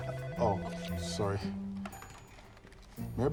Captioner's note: phone ringing